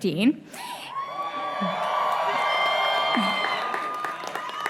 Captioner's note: cheering